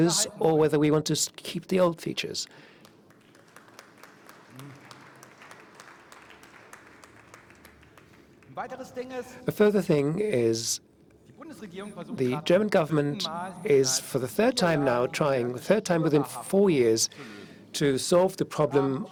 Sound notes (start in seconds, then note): 9.2 applause